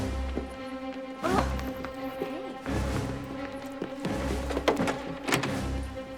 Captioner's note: gasps; door clatters